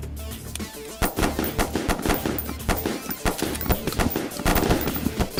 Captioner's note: multiple guns firing at once